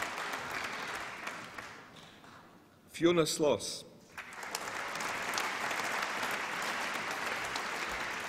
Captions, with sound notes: Fiona Sloss. (APPLAUSE)